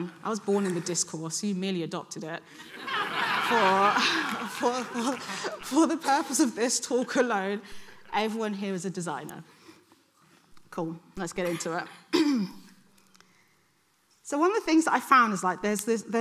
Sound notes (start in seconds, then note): 2.6 audience laughing